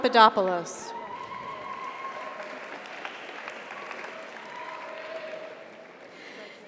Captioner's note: audience cheers; audience applauds